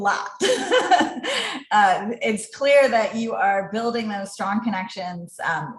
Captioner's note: laugh